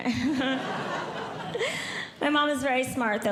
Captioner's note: audience Laughing